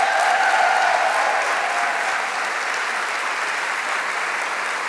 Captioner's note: applause